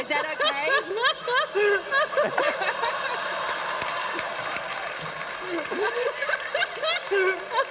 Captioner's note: laughter